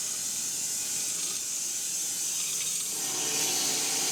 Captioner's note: mill whirring